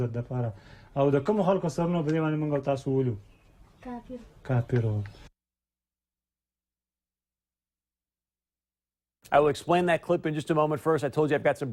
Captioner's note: speaking foreign language